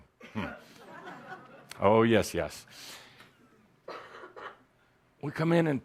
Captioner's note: some laughter